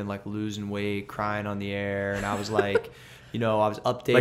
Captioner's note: laughter